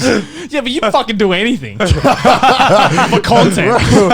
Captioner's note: laughing